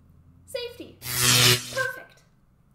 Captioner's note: sound of electricity